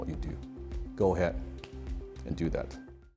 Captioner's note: snaps fingers